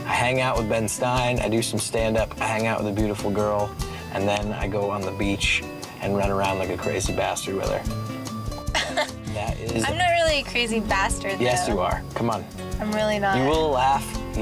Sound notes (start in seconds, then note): 8.7 laughs